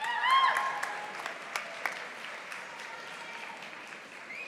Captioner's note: audience applauding